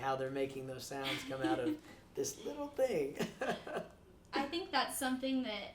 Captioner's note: laughs